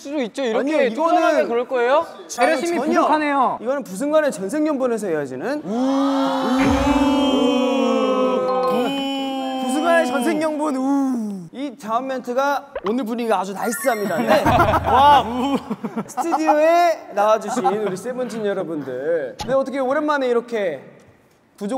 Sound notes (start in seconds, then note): 5.7 cheers; 5.7 passionate cheering